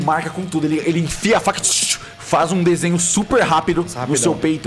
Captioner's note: cutting sound